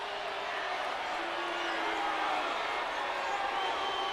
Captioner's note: crow booing